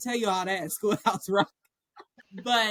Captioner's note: laughter